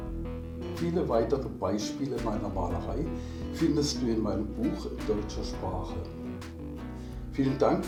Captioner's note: in German